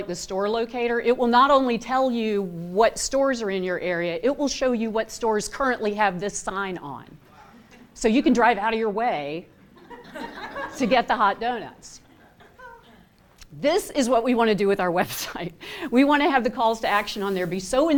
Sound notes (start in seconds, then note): 9.6 laughter